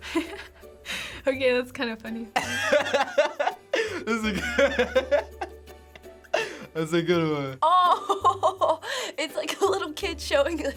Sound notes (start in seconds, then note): 2.4 giggles; 3.6 laughs; 8.1 laughs